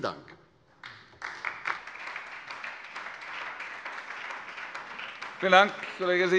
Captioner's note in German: Beifall bei der SPD